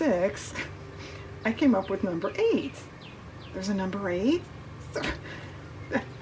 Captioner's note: laughs